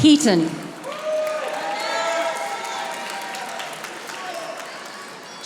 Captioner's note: audience applauding